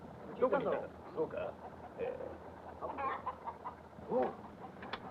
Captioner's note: soldiers speaking Japanese